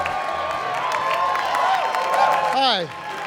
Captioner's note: cheering and applause